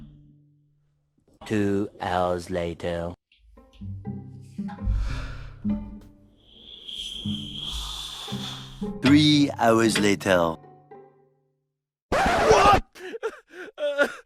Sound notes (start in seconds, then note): 6.5 exhaling loudly; 12.1 laughs